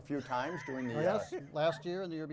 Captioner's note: chuckles